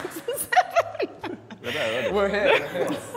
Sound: woman 1 nervously laughing

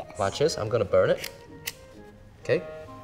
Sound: lighter clicks

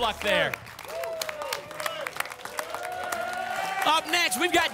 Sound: applause and cheering

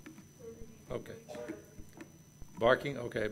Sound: murmurs

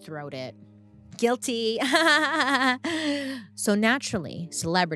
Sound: laughs

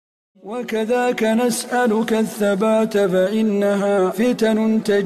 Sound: man reciting

